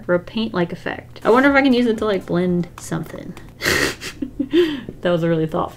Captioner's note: laughs